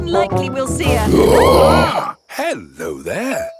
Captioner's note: roaring, screaming